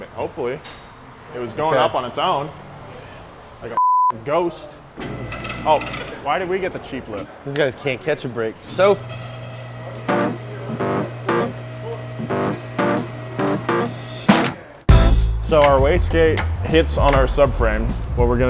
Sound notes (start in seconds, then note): 3.8 beep; 5.0 metallic whirring noise; 8.7 metallic whirring noise; 11.3 deep bass music